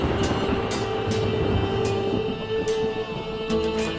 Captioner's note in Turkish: Kılıç sesleri